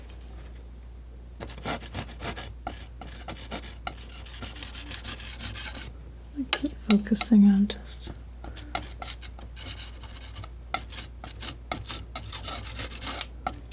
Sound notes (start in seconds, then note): 0.0 scratching; 8.4 scratching